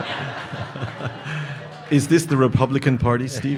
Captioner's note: audience laughing